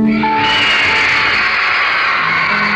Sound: crowd screaming

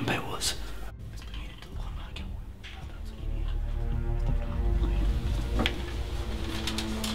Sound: whispering continues

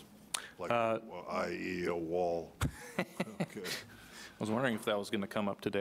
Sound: laughing

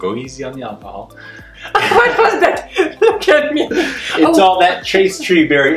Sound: laughing

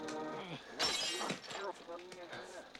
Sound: crash

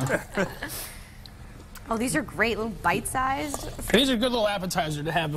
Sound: laughter

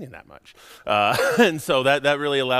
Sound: laughing

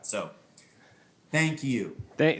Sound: none

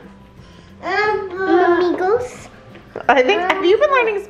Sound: speaks foreign language

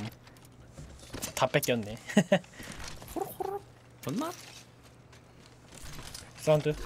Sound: laughs

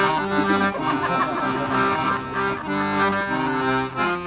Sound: giggles from audience

